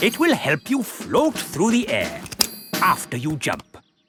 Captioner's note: clicking